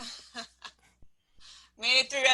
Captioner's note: laughing